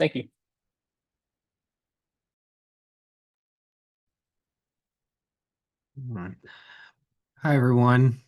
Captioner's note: silence